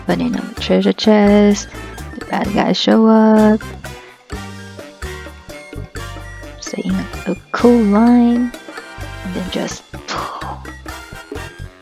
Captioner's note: pooowwff